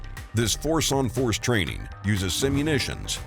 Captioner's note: voiceover